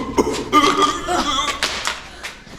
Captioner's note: sounds of impact; arm clatters